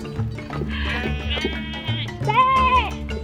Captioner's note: animal sound